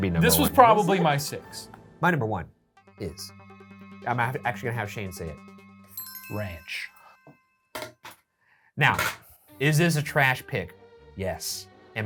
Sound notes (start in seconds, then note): 3.0 suspenseful music; 5.9 list chimes